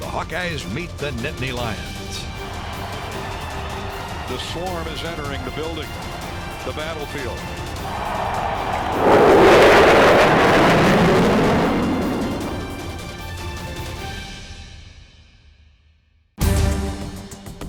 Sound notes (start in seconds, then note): 12.1 flyover